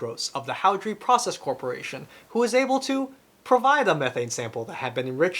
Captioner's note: none